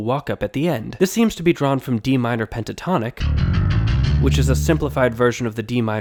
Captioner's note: bang